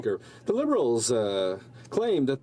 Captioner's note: speaking French